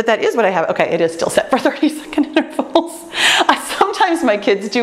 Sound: laughs

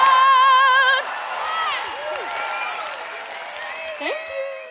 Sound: audience cheers

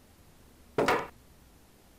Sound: thud from upstairs

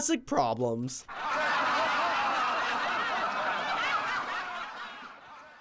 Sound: canned laughter

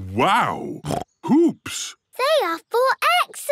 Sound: snorts

